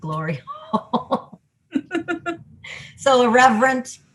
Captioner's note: laughs